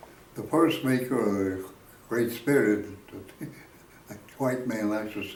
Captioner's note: chuckles